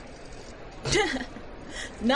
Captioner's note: Alex, sputters and snorts, amused